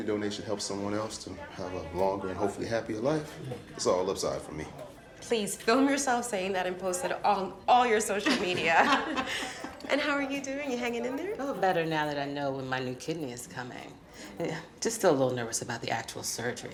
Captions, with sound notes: to have a longer and hopefully happier life, it's all upside for me. - Please film yourself saying that and post it on all your social media. (all laughing) And how are you doing? You hanging in there? - Oh, better now that I know when my new kidney is coming. Just still a little nervous about the actual surgery though.